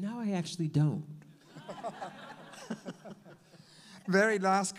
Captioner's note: all laugh